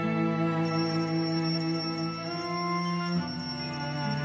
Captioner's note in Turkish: Alarm sesi